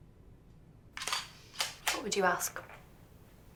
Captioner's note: shutter clicks